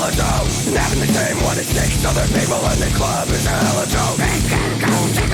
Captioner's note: laughs